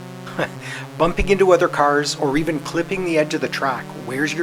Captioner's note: chuckle